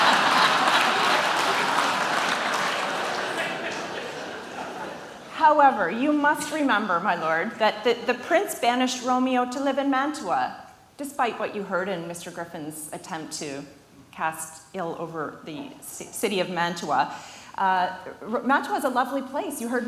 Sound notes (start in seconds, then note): 0.0 audience applauding